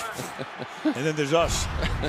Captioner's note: laughter